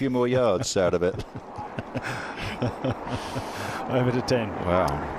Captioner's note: laughter